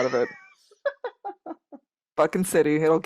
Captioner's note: laughing